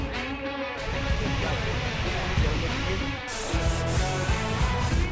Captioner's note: water whooshing; people chatting; upbeat music